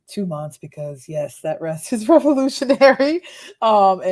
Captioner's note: laughs